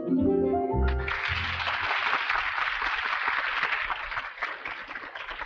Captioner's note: audience applauding